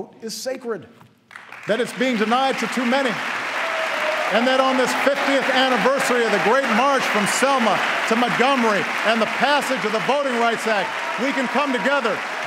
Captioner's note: applause